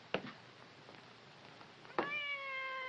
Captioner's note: cat meows